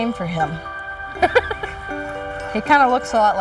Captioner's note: laughs